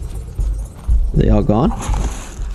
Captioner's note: gunshots